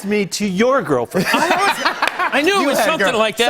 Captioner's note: laughter